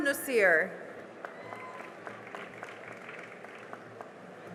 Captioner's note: cheering and applause